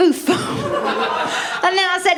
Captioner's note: laughter